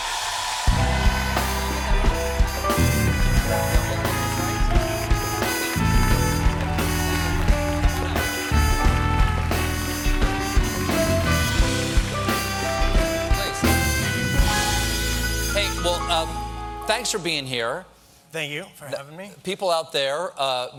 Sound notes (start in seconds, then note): 0.0 cheers and applause; 1.2 band playing